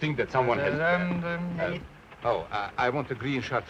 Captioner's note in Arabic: يدندن في الحيلة